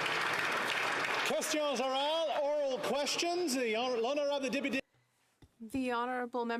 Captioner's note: some Applause